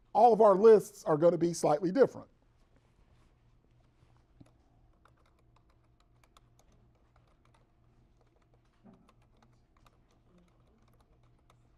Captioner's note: typing on keyboard